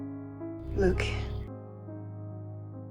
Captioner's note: voiceover